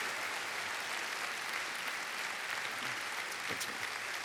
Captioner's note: audience applauds